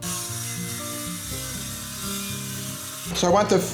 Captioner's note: saw whirring